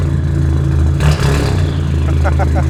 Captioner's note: engine idling; engine revving; man laughing